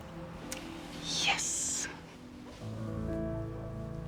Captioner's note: whispers